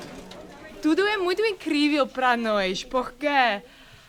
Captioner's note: non-english speech